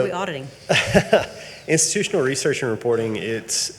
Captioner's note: laughs